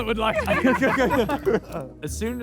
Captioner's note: Sidemen laugh